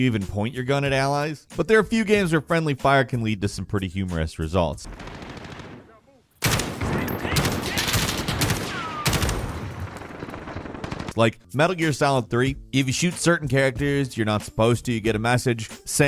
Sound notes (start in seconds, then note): 6.4 gun shots; 8.5 man shouting